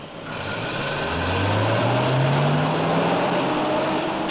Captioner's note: bus engine rumbling